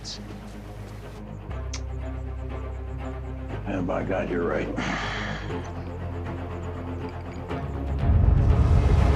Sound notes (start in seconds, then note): 4.7 sighs